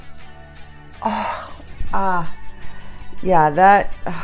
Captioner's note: exhales